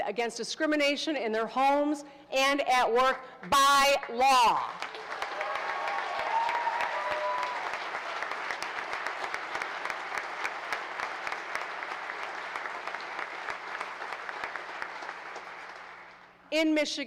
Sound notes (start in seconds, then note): 6.3 applause